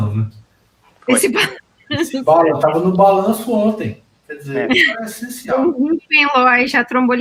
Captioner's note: multiple voices